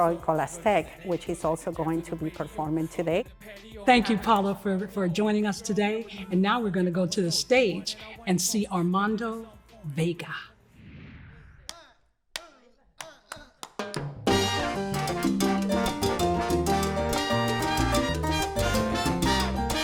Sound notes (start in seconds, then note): 10.7 air whooshing; 14.2 salsa music